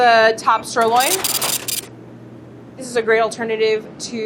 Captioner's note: scale beeps and brrhs